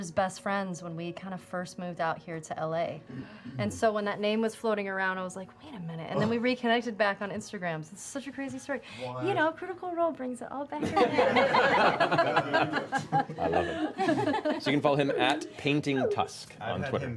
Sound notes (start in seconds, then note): 10.8 laughter